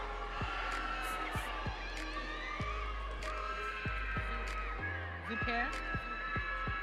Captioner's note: audience cheering